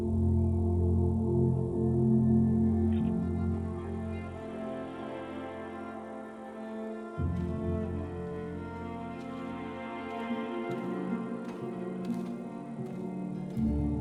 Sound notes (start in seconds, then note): 0.1 somber music; 7.3 grass crunching